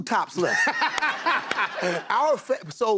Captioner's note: laughter